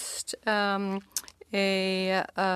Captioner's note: speaking French